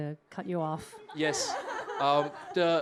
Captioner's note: laughter